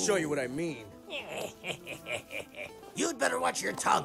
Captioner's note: he sniggers